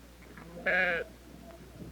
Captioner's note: goat bleating